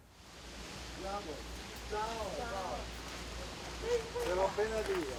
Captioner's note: indistinct conversation